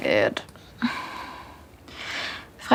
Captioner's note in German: Seufzen